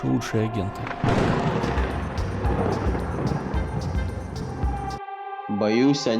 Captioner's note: thunder